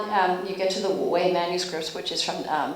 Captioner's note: speaking Chinese